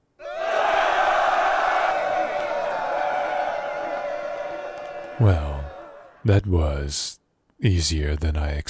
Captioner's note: group screaming